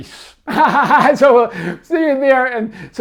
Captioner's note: laughs